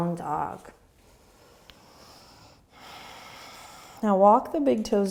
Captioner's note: breathing